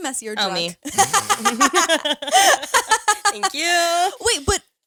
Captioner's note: all laughing